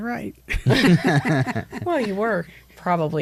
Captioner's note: all laugh